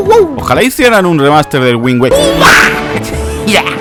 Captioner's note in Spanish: sonidos de mono